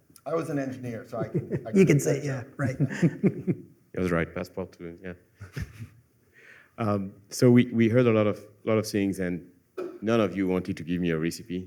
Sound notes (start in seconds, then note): 2.6 laughter